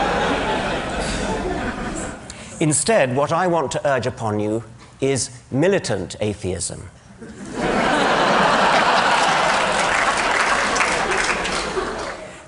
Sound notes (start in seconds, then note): 0.0 laughter; 7.2 laughter; 8.7 applause